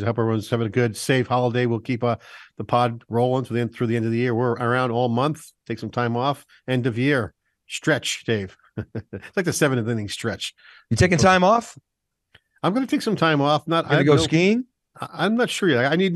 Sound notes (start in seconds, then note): 8.7 laughs